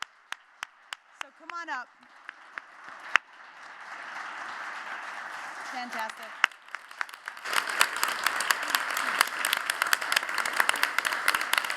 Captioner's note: �applause�